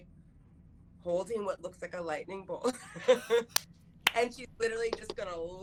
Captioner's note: laughing